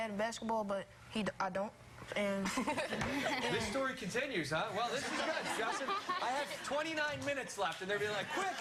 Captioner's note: laughter